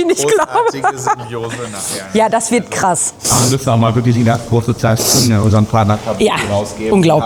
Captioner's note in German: gelächter